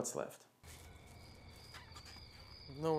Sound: crickets

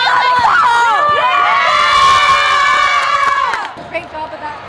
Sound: cheering

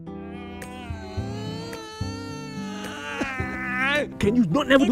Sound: ERIC whining

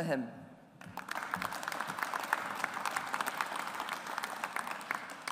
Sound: audience applauds

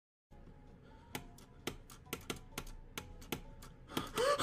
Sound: click click click click click click

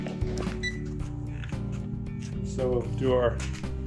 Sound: thermometer beeping

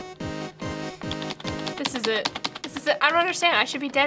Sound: tapping key

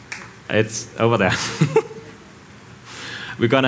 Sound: chuckles

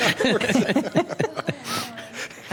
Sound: some Laughter

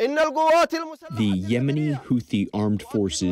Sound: through translator

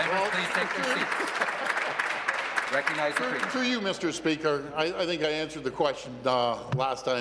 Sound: applause

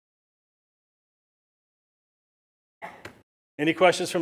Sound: silence

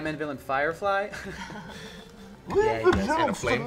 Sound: all laugh

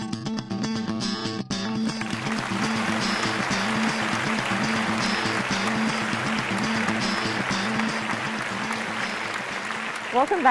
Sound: applause

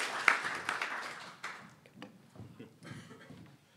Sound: applause

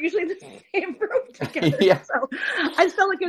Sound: laughs

